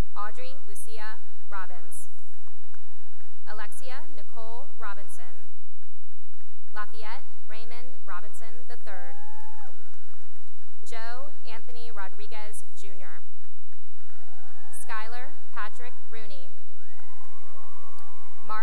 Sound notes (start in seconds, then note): 1.7 cheering and applause; 5.7 applause; 9.0 cheering and applause; 13.9 cheering and applause; 16.7 cheering and applause